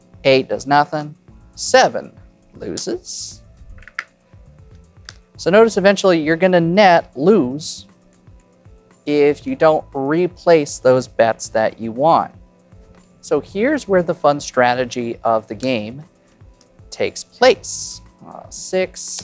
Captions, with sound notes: 8, does nothing. 7, loses. (chips clattering) So, notice, eventually, you're gonna net lose, if you don't replace those bets that you won. So, here's where the fun strategy of the game takes place. A 6.